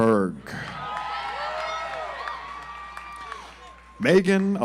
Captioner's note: audience applauds